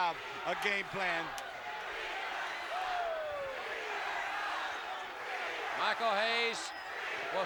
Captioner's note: applause